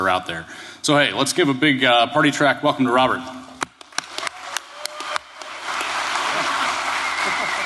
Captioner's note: cheers and applause